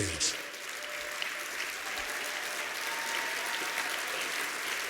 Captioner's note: applause